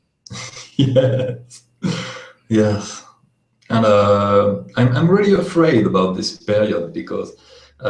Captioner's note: laughs